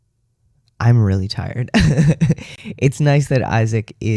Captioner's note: laugh